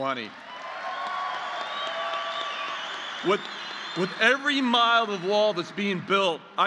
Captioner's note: applause